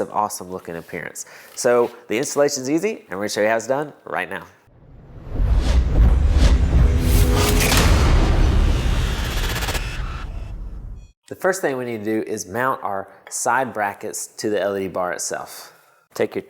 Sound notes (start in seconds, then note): 4.7 sound effect